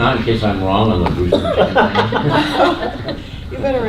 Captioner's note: laughter